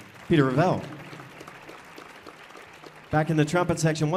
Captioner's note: audience applauding